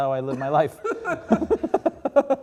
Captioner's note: laugh